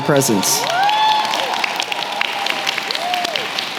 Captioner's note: applause